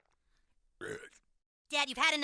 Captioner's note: Randy burps